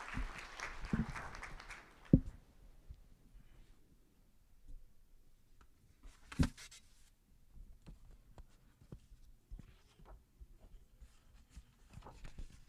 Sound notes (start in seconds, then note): 1.7 applause